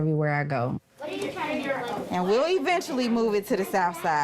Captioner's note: kids chatting